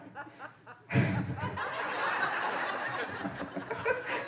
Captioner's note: audience laughing